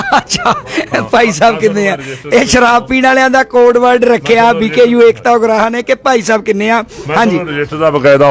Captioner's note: laughs